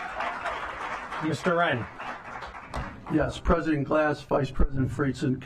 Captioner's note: applause